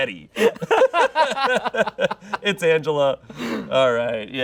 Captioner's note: laughs; laughing